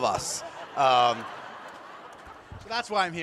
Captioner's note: laughter